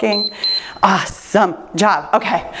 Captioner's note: timer beeps